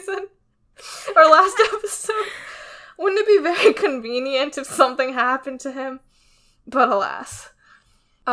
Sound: laughs

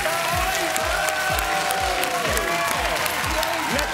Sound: cheering; dramatic music

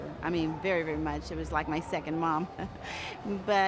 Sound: chuckles

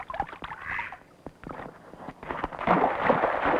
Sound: splashing

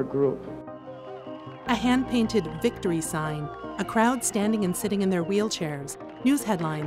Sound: supporters clap and cheer on the protesters

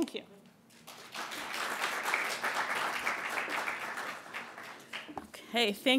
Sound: applasue

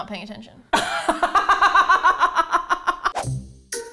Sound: laughing; laughs

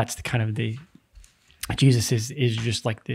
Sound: none

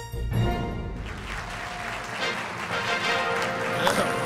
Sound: applause, cheering

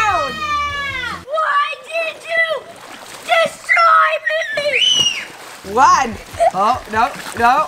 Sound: screaming

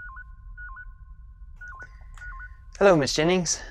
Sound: beeping

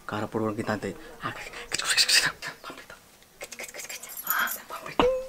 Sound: makes random sounds

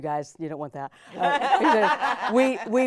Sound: all laughing

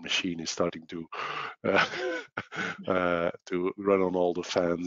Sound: laughs

